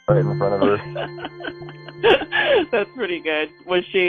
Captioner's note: laughing